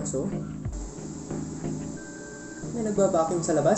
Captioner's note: whirring sound